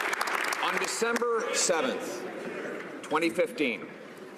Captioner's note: some Applause